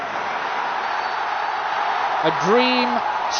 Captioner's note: crowd roaring